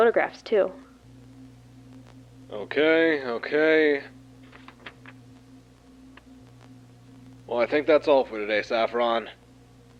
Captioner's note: flips through papers on clipboard